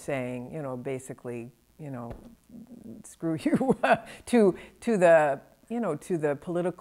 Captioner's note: chuckles